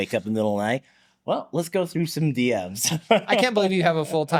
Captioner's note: laughs